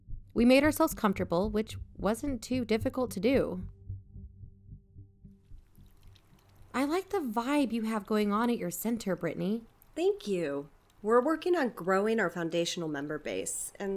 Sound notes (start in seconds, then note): 3.9 room ambience with desktop waterfall